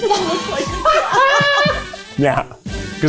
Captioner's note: laughing